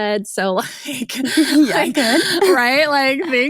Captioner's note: laughs